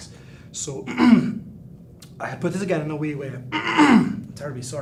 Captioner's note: clears throat